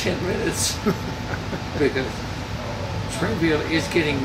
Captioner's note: laughing